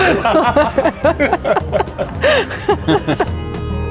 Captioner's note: group laughs; up beat music